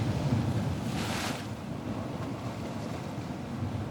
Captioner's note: sound of Ocean Waves